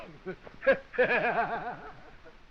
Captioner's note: laughing